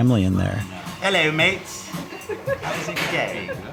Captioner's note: staff giggles